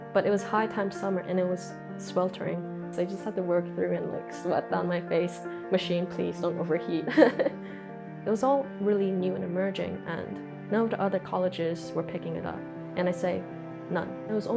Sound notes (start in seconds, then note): 7.1 laughs